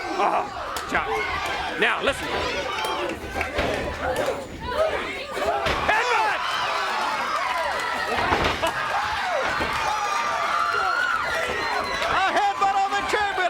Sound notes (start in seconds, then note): 1.6 crowd chatter; 4.6 crowd cheering